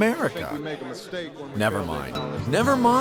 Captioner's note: chatter